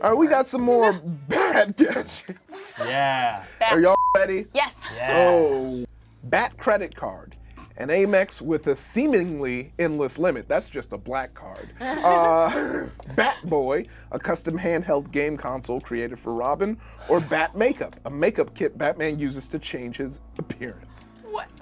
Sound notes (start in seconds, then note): 3.8 beep